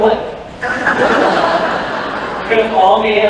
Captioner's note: laughter